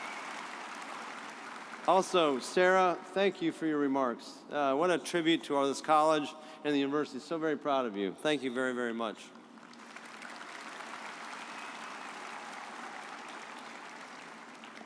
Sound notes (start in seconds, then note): 9.6 audience applauds